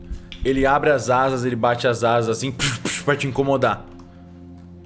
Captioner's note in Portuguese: pff pff